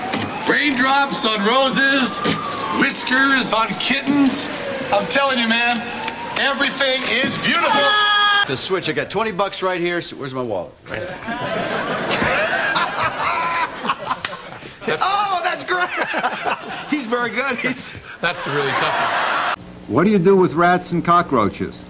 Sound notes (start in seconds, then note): 7.6 screaming; 10.9 laughter